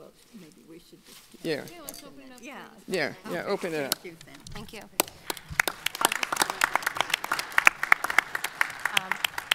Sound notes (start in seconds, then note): 5.0 audience applauding